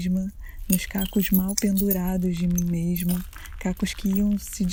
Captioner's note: sound of eggshells falling on the floor and being broken